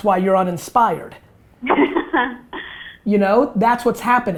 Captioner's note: laughs